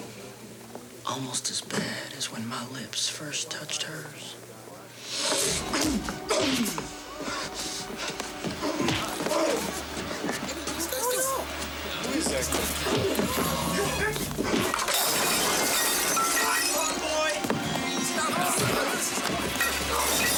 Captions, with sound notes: Almost as bad as when my lips first touched hers. (smacking) (ominous music) (people chattering) (items crashing) (suspenseful music)